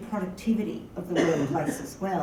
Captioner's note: cough